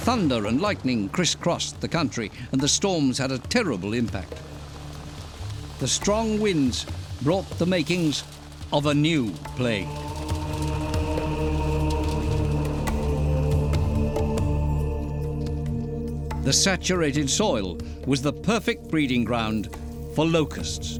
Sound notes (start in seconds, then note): 9.5 men chanting; 10.3 beating hail